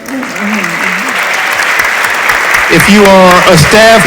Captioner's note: audience applauds